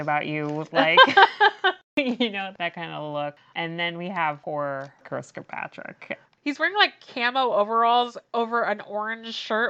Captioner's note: laughs